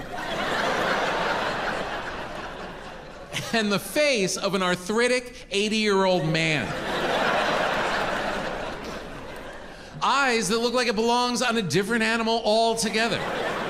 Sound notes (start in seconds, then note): 0.0 audience laughing; 5.8 audience laughing